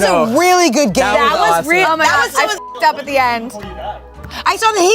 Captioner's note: beep